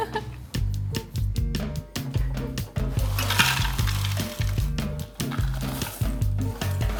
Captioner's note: slow jazz music; Takis rattling